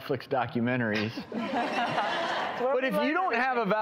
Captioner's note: audience laughing